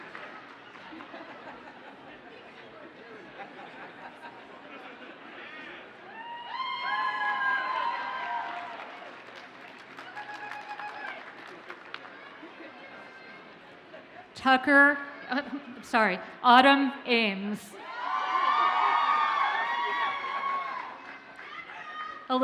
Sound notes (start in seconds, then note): 0.8 audience laughs; 6.1 audience cheers and applauds; 17.8 audience cheers and applauds